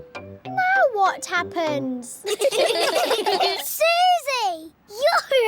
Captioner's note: all giggling